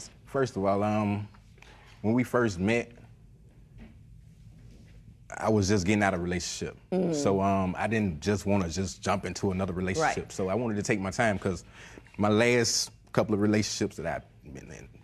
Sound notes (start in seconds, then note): none